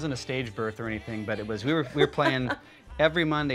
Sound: laughing

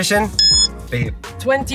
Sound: timer beeps

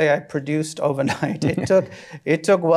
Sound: both chuckle

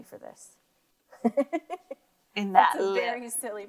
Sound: laughing

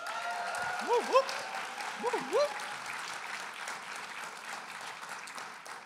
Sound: applause and cheering

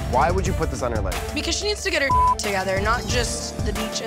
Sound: beep

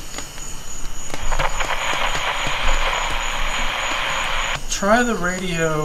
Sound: radio crackling

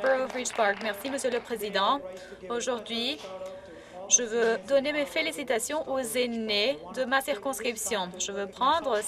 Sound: applause

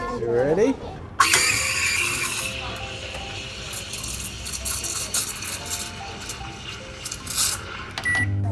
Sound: milk steamer whirs; microwave button beeping

